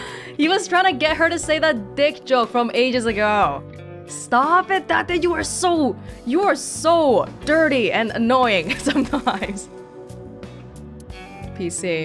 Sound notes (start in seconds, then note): 8.7 chuckles